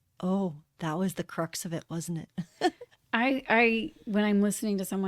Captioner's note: laughter